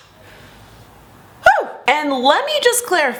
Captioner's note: yelp